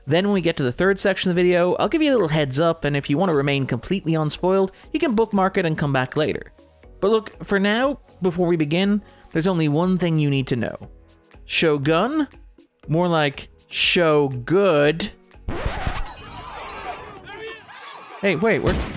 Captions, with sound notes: Then when we get to the third section of the video, I'll give you a little heads up, and if you wanna remain completely unspoiled, you can bookmark it and come back later. But look, for now, before we begin, there's only one thing you need to know. Shogun? More like, Show Good. (record scratching) Hey, wait, where?